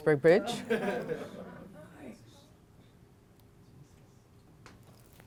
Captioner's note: laughter